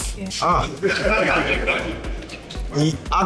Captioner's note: crowd laughing